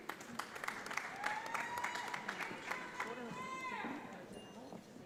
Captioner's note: audience applauds